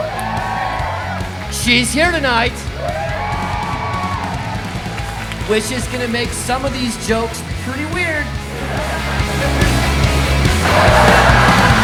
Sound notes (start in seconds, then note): 0.1 audience cheering; 3.0 audience cheering; 8.7 audience laughing